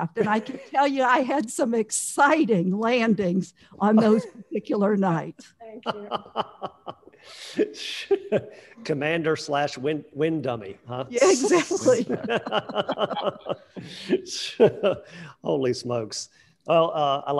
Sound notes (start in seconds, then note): 5.8 laughing; 11.3 crowd laughing